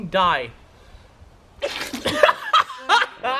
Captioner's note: spit